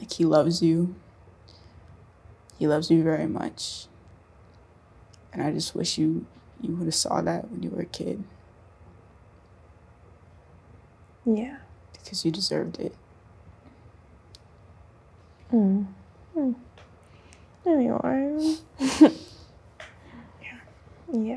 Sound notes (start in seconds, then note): 17.4 murmurs; 18.8 both chuckle